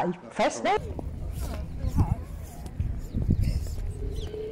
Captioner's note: chatter, birdsong